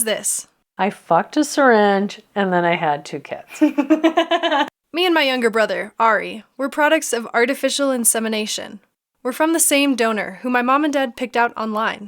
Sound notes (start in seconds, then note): 3.5 laughter